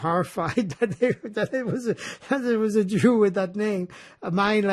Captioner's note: laughing